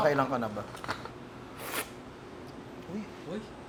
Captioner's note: slurps